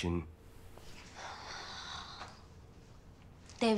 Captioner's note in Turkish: Nefes sesi